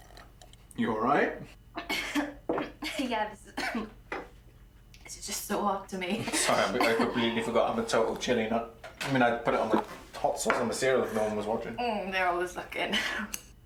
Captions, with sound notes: -You alright? -Yeah. [coughs] This is just so hot to me. Sorry, I completely forgot I'm a total chilli nut. I mean, I'd put it on, the hot sauce on the cereal if no one was watching. They're always looking.